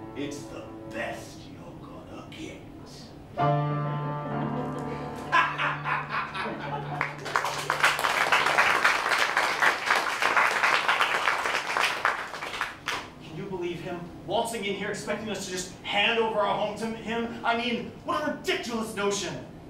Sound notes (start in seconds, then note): 5.1 Mr. Hughes laughs villainously; 6.9 applause